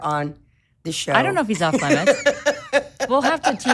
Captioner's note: laughing